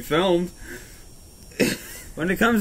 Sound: cough

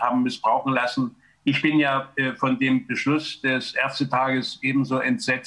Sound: German

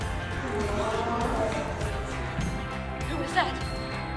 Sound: crowd gasping

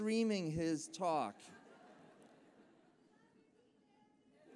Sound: laughter

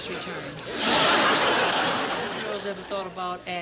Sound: audience laughing

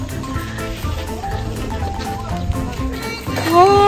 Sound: scratch Scratch

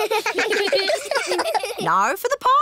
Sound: kids giggling

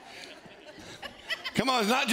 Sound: laughing

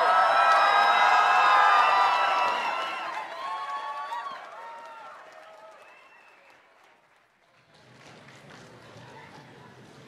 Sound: cheers

